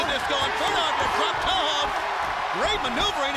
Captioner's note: crowd cheering